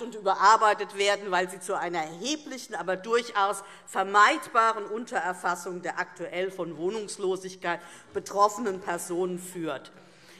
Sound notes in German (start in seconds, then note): none